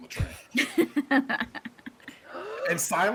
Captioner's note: people laughing